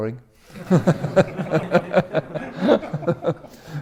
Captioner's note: all laughing